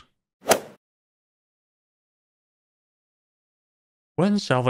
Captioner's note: golf ball hit sound